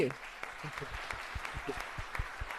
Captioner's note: applause